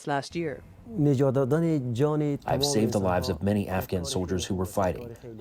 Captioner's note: through translator